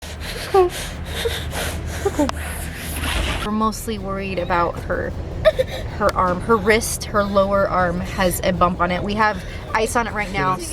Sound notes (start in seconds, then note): 0.0 heaving